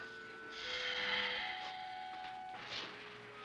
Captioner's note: melancholy music; Johnny sighs; melancholy music